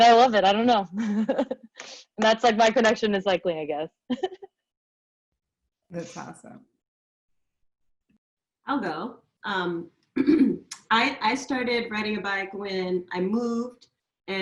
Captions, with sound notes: And I love it. I don't know. (laughs) And that's like, my connection is likely, I guess. - That's awesome. - I'll go. I started riding a bike when I moved